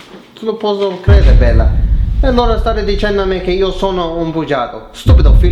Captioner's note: foriegn Language